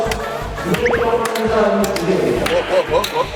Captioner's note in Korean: 푸흡